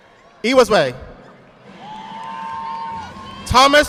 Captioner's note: audience clapping